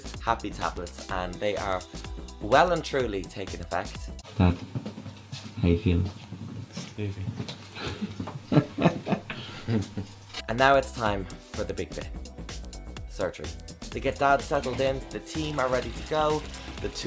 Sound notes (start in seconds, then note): 8.4 laughter